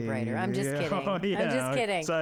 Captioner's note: laughing